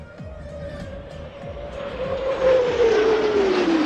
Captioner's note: upbeat music; engines whining